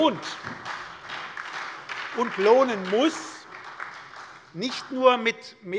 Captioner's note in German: Beifall bei der SPD